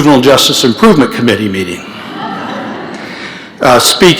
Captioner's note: laughter